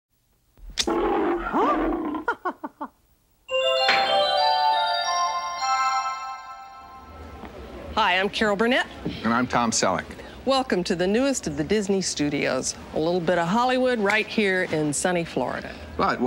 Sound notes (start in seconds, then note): 0.8 lion roaring; 2.2 Mickey Mouse laughing; 3.5 bright cheerful music